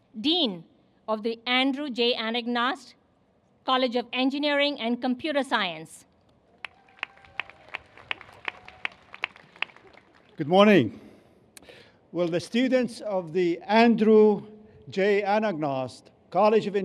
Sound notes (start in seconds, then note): 6.5 applause